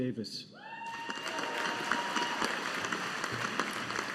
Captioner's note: audience applauding